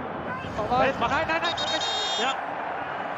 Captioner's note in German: Pfiff